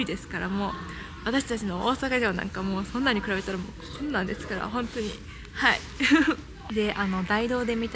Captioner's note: laughs